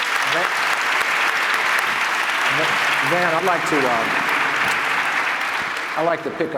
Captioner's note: applause